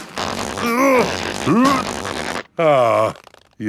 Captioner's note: grunting